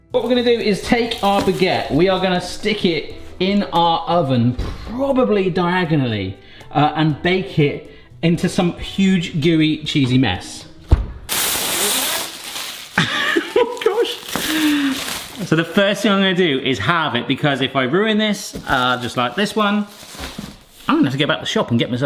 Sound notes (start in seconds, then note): 13.0 laughs